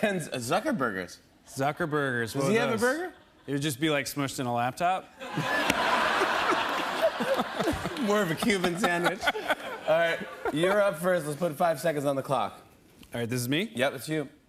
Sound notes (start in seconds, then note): 5.2 laughter and applause